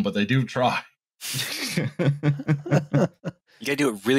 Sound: laughter

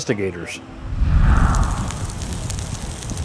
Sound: fire crackling

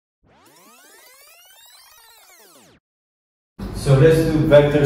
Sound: fast-forward whirring

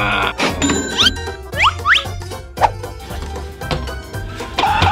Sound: groaning; cash register rings

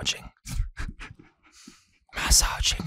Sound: Staz breaths heavily

